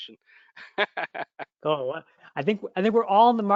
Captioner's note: laughter